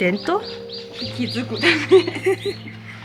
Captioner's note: laugh